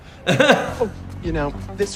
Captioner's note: hosts laugh